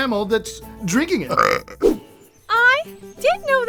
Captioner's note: burp